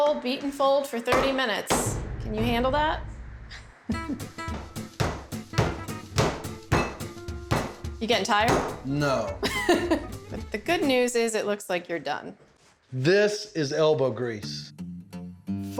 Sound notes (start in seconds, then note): 4.4 pounding sound; 8.8 says sarcastically; 9.1 chuckles